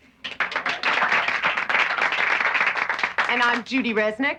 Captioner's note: applauding